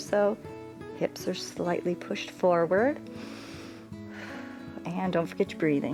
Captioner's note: inhales and exhales